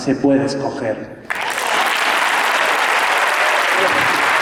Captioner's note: applause